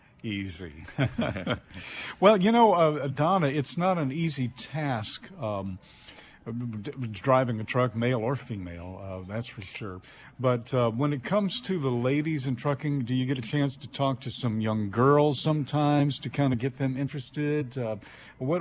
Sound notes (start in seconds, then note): 0.8 laughter